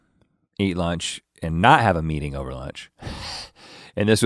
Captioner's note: chuckles